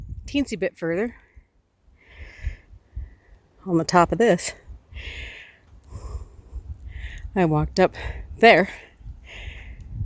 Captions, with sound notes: a teensie a bit further. On the top of this. [heavy breathing] I walked up there,